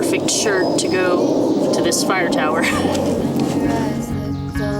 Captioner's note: laughs